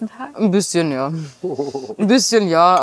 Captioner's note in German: Lachen